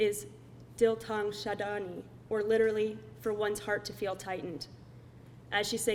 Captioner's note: speaking foreign language